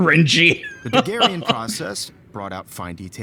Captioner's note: laughs